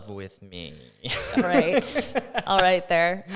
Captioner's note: laughs